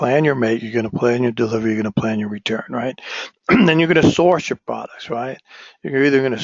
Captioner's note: cough